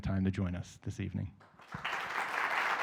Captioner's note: applause